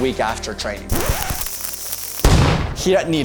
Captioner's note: dynamite Exploding